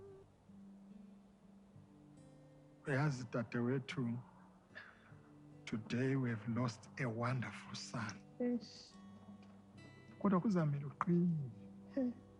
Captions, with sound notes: [in Ndebele] You know my dear sister, Today we've lost a wonderful son. [sobbing] But you'll have to be strong.